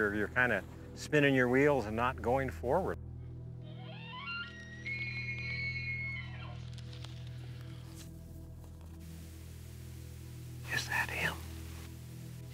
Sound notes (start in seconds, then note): 3.6 elk shrieking; 6.7 dramatic rumbling music